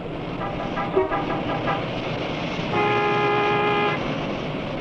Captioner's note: car horns honking